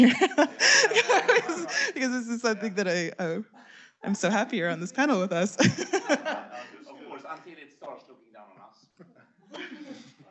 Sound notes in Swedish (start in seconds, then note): 0.0 Skratt; 6.4 skratt